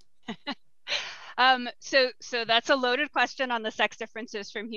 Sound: laughs

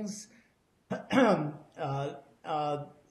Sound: clears throat

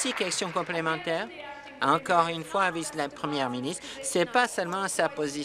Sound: applause

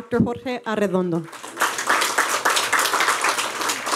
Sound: applause

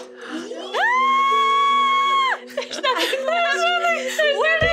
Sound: screams

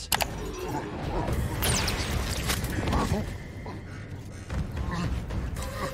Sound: heavy breathing; grunting, heavy breathing

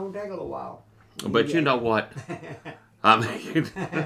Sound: laughs; laughing

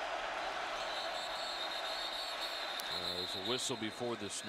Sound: whistle

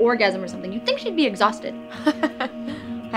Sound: Paulie sniggers

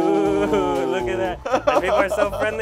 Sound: laughs

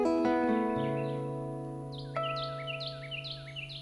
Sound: birds chirping

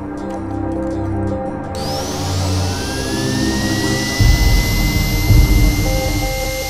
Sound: drill whirring

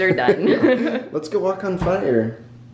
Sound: laughter

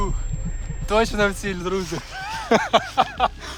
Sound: laughter

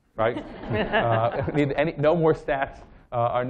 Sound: laughter

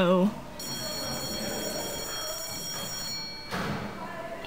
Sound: class bell rings

